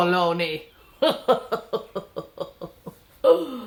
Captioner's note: laughs